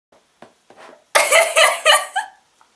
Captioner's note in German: creepy Lachen